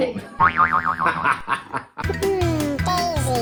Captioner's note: laughs